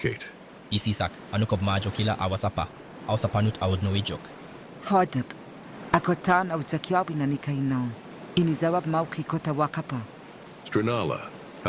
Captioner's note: Tarnolian language